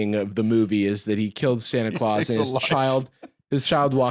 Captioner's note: laughing